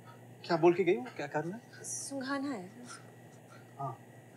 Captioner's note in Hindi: none